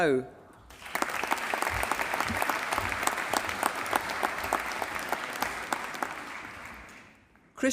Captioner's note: applause